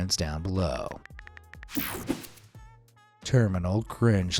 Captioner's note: cell phone keyboard clicking